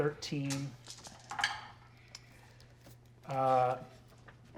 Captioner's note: dice rolling